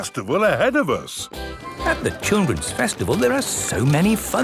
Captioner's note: festival buzz and music